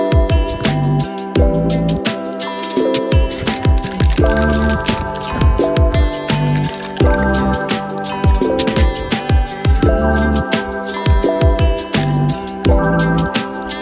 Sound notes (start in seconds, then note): 2.4 rattlecan rattling; 7.7 aerosol sounds